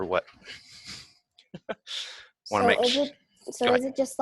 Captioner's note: laughs